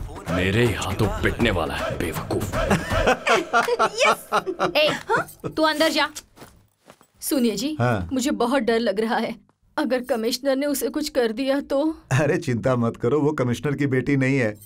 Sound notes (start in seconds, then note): 1.8 laughs